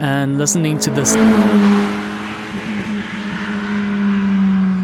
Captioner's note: Ferrari sound